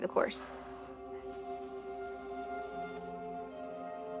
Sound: exhales, cloth scratches

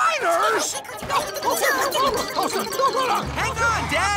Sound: laughing

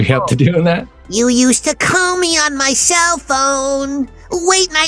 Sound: Bugs Bunny voice

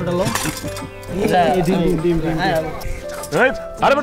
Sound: all chattering

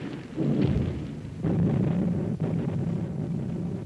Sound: distant explosions

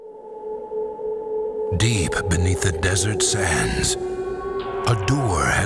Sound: voiceover

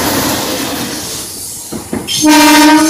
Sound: train horn warning

